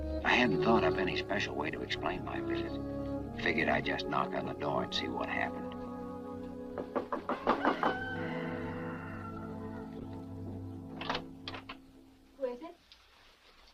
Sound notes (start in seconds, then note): 6.7 knocks; 7.0 rooster crows; 10.9 lock clacks